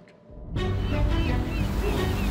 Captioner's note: birds squawking